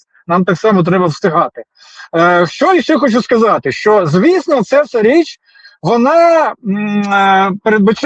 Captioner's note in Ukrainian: сопіння